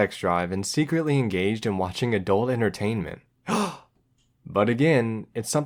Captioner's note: gasp!